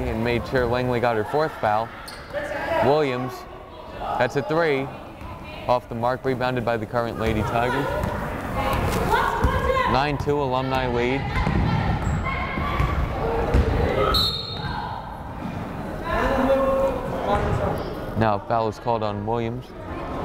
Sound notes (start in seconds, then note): 14.0 whistle blows